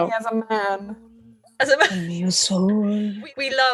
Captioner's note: she laughs